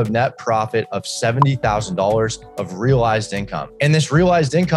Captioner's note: popping